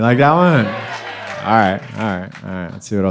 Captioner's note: crowd